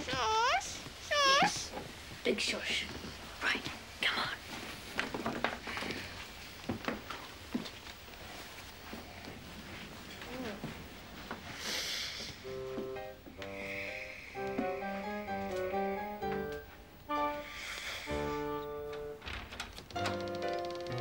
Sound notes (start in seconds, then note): 5.2 clattering; 13.0 playful orchestra music